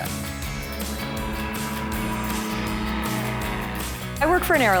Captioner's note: engine humming; upbeat music